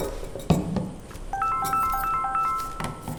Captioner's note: mobile ringing